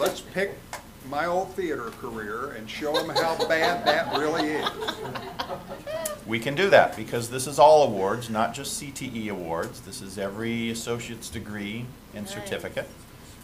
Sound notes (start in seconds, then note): 5.9 laughter